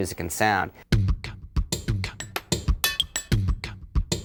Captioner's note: slow beatboxing